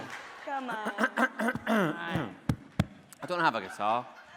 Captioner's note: clearing throat